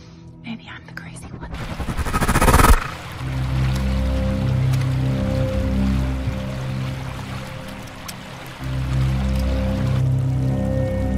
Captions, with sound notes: Maybe I'm the crazy one. (Whoosh) (Haunting music, flowing creek)